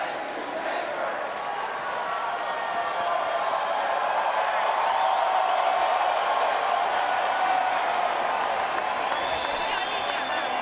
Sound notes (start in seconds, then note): 5.3 crowd cheering